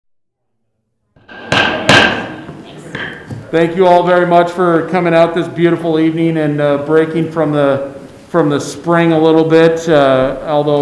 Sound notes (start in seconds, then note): 1.2 gavel bangs